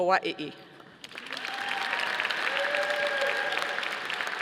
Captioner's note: audience applauding